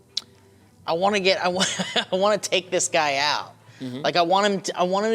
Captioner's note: laughs